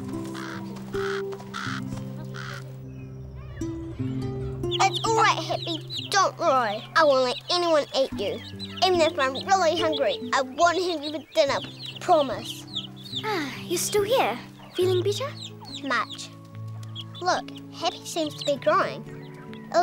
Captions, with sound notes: (bird cawing) (gentle guitar music) (hen clucks) - It's alright Happy, don't worry, I won't let anyone eat you. Even if I'm really hungry I won't have you for dinner. Promise. - Ah, you're still here? Feeling better? - Much. Look Happy seems to be growing,